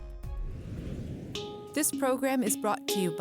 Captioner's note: whooshing